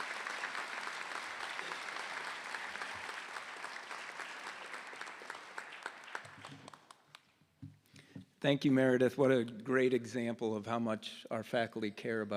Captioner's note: applause